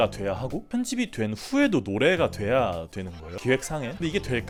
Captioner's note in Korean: none